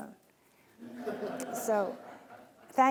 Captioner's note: laughing